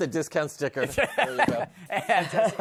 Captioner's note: laughs